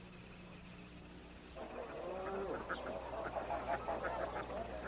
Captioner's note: mooing, oinking, quacking